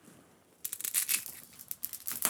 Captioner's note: crackling